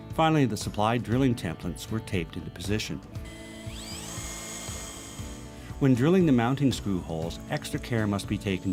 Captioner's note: drilling sound